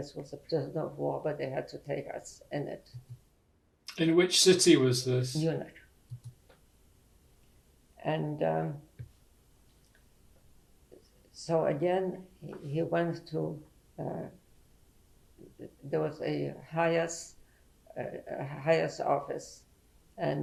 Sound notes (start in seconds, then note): 9.0 pauses for 3 seconds